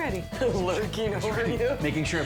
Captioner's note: laughs